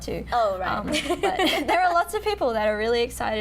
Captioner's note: laughing